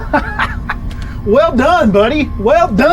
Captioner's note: laughs